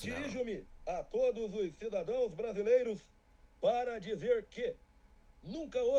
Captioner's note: speaking in Portuguese